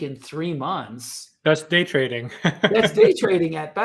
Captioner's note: chuckles